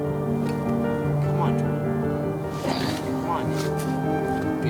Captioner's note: exhales